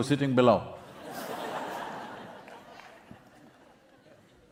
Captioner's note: applause